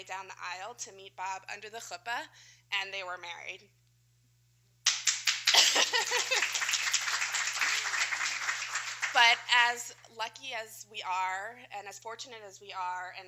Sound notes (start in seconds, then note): 4.8 applause